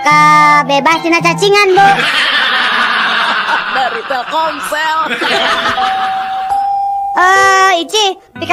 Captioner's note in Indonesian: tertawa